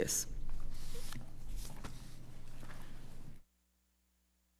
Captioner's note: pages rustling